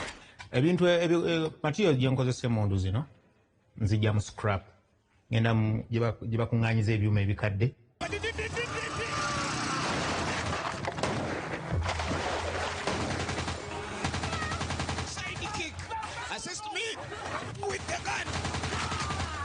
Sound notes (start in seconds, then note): 8.0 driver yelling; 8.1 motorcycle sounds; 9.7 gunfire; 17.6 gunfire